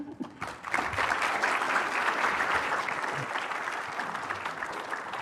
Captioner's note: applause